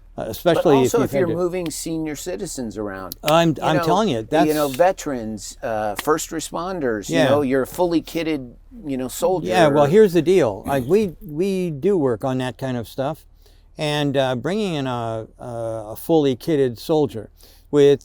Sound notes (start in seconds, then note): 5.9 claps